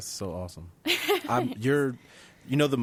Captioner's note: laughing